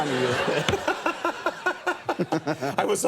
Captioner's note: Conan laughs